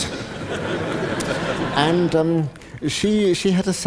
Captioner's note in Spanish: Risas